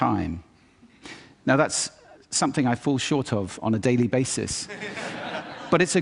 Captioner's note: laughter